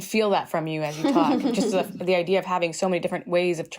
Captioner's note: laughter